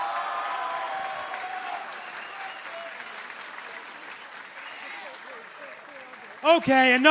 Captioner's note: crowd cheering